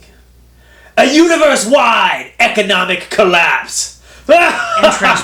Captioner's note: evil laugh; interrupting laughter